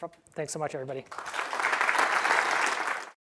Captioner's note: applause